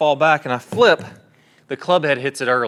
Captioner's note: club thuds